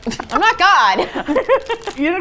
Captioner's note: laughs